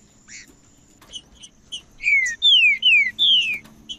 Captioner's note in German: trinca ferro cantando